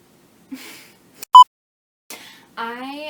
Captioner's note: beep